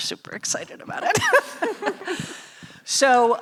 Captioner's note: laughing